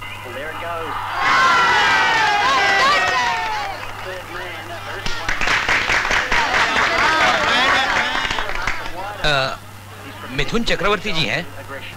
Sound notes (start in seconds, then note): 0.2 cricket commentary; 5.0 applauding